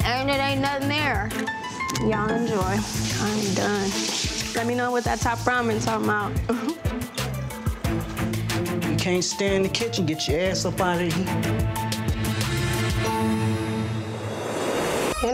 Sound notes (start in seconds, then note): 6.4 chuckles; 12.8 upbeat hip hop music